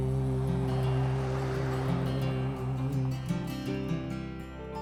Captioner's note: truck whooshing